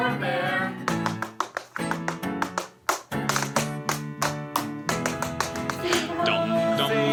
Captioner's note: sounds of tap dancing